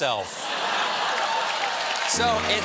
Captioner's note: cheers and applause